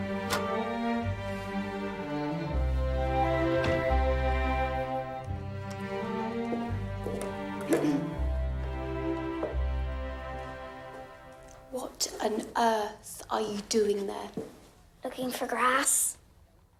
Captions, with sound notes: [door opens] [clears throat] 'What on earth are you doing there?' Looking for grass.